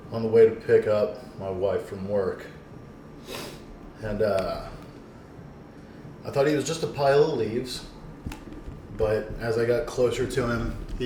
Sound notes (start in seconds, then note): 3.2 sniffs